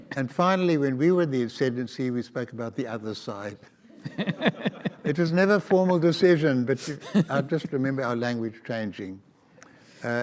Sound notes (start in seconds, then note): 4.0 audience laughs